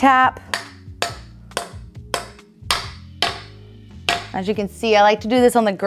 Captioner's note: mallet thudding